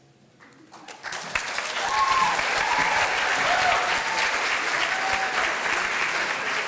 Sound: applause

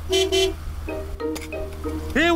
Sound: honks horn

